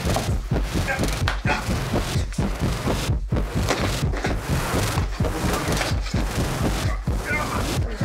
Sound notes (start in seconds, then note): 2.6 objects clattering